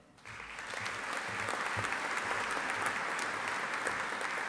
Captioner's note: audience applauding